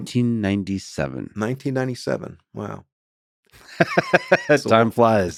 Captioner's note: laughs